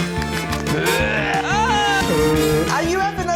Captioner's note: growls